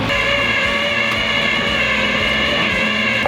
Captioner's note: winch whirs